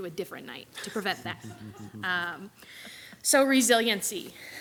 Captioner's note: group laughs